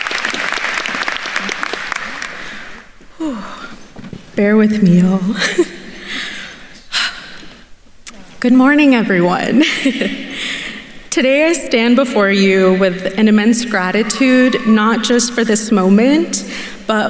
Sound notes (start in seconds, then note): 6.2 chuckles; 7.1 sharply exhales; 9.6 chuckles